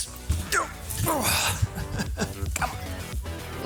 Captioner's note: old man noises